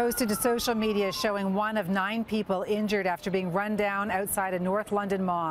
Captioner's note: siren